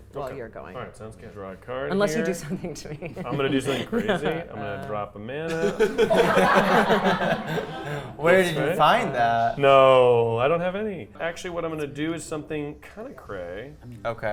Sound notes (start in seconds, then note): 5.5 players laughing